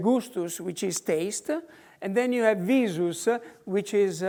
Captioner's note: in foreign language; in foreign language